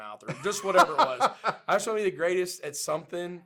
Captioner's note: laughs